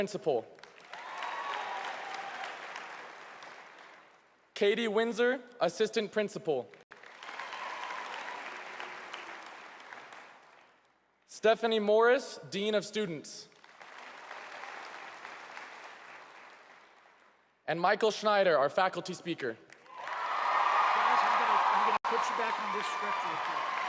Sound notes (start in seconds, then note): 13.4 applause